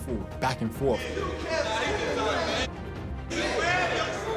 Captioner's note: yelling